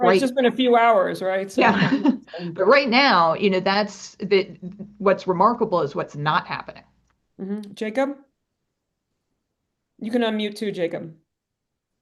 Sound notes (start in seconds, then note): 1.6 laughs